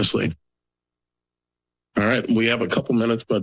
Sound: pause

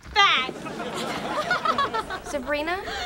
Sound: punchy laughter

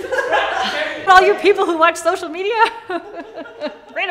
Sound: laughter; laughter

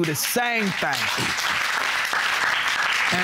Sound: audience clapping

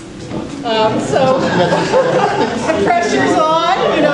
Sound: crowd chatters

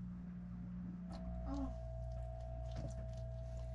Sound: gentle waves

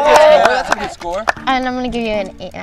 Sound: cheering

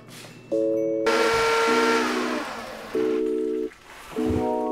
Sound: machinery whirring

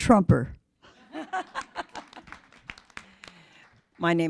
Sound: laughter

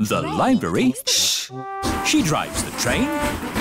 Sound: chattering

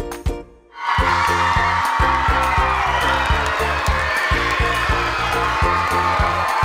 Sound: crowd cheering, applauding; upbeat music

